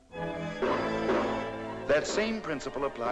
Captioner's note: cartoonish gunshots